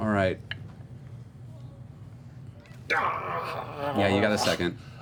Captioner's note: groans